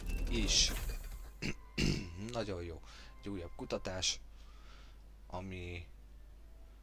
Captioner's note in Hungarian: köhögés